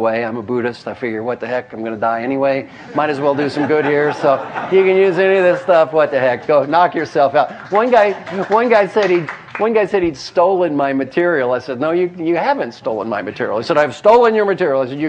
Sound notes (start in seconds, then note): 2.2 laugh; 7.4 applause